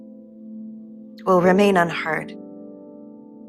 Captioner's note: voiceover